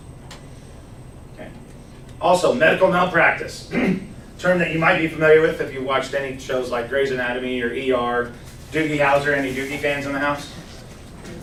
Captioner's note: clears throat